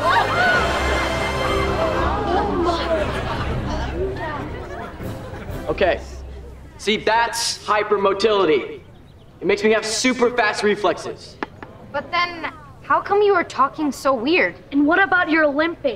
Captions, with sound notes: Oh, my. [chattering] Okay. See, that's hypermotility. It makes me have super fast reflexes. But then, how come you were talking so weird? And what about your limping?